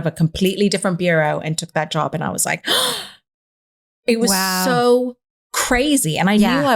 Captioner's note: gasps